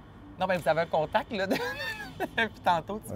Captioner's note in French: rire